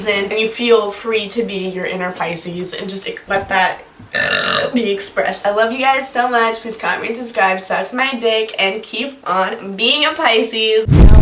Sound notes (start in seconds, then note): 4.1 burps